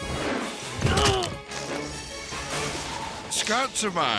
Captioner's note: grunts